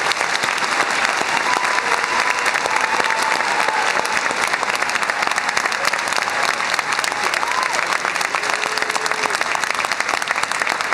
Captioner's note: applause